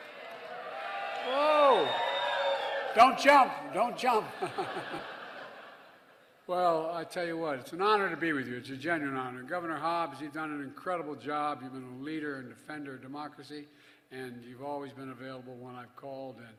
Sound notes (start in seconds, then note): 0.0 applause; 4.1 laughter